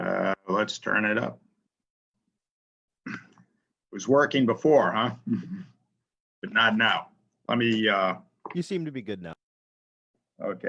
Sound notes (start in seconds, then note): 5.2 chuckles